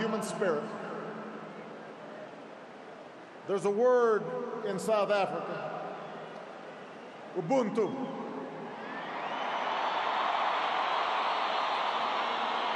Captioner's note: applause